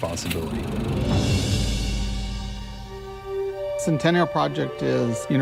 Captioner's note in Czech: chrastění filmu; lehká hudba